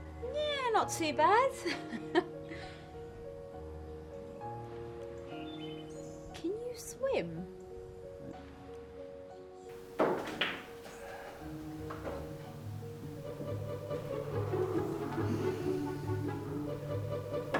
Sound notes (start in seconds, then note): 9.7 pool balls clacking; 13.4 lighthearted orchestra music